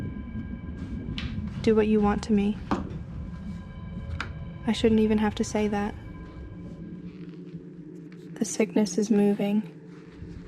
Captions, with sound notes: Do what you want to me. I shouldn't even have to say that. (wind fades) (ominous drone fades in) The sickness is moving.